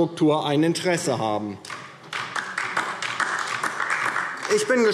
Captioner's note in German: Beifall DIE LINKE